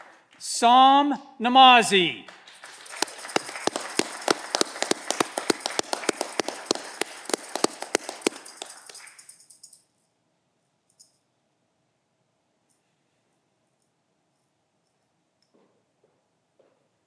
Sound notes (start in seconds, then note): 2.0 audience clapping